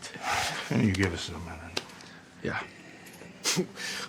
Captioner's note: chuckles; sighs; chuckles